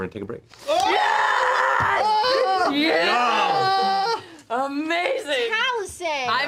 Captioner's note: screaming